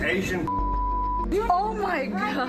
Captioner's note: beep